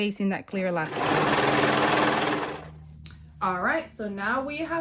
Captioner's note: serger clattering